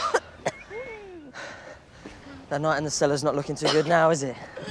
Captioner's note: coughs, gasps